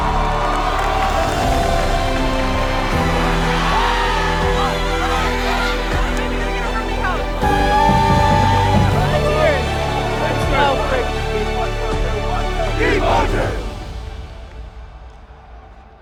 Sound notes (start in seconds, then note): 0.1 crowd cheering; 4.2 all cheering; 6.6 people vocalizing; 7.7 all cheering; 10.3 people vocalizing